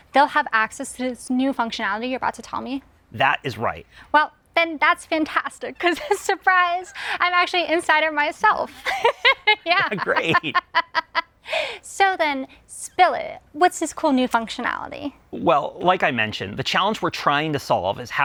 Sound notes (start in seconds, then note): 8.8 laughs